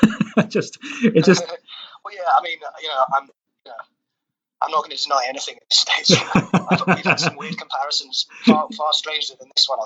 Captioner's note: laughs